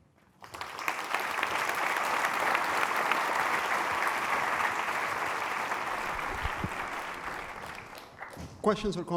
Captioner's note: applause